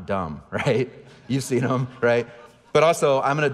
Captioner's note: audience laughing